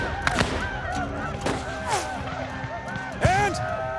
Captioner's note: gunfire